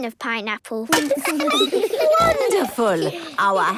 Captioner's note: laughing, snorts